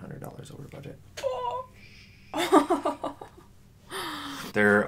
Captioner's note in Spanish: risas